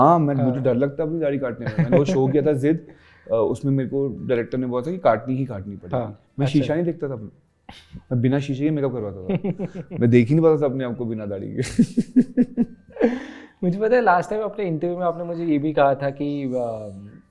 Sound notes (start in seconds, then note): 11.6 giggles